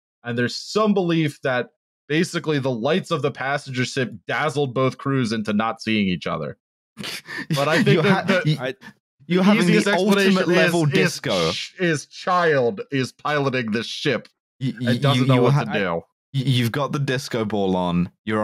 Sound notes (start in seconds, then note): 7.0 laughs